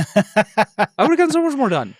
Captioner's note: laughs